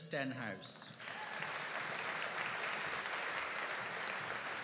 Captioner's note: audience applauding